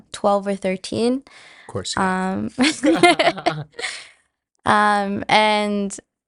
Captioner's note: laughs